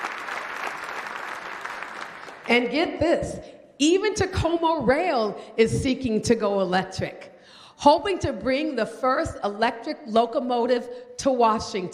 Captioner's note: applause